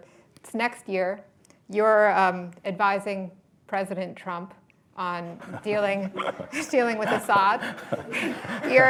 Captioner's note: laughter